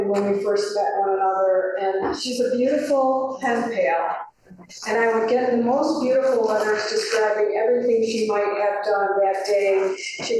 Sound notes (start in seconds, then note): none